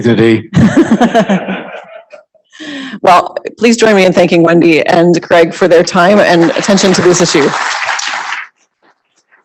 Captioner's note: applause